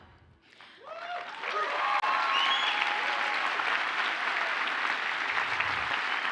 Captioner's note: audience cheers and applauds